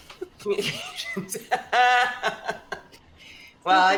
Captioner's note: laughs